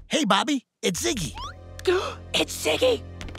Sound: gasping

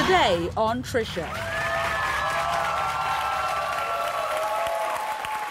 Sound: audience cheers and claps

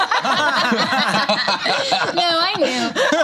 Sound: laughter

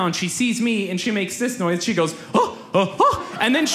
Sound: gasps loudly

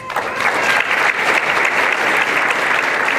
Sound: applause

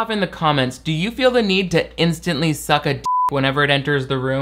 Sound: beep

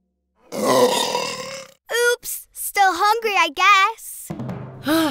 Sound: belches

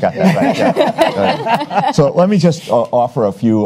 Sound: panelists laugh

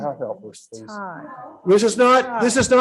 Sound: angry chatter

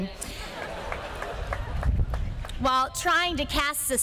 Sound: laughter

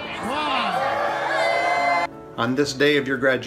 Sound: students cheering

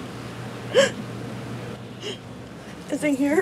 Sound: sobbing

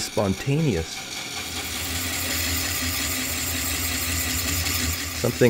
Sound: machine whirring

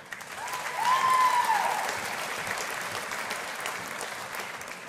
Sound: audience applauding

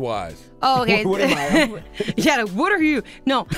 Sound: laughing

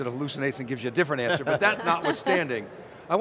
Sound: chuckle

